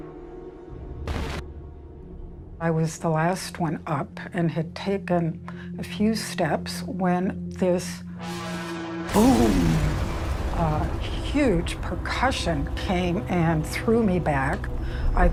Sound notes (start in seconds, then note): 9.1 boom